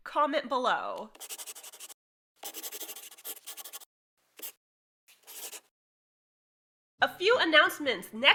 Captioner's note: the sound of a pen scratching. LOGO